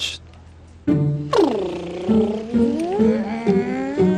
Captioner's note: Phryne makes car sounds